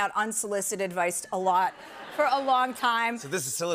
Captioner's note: laughter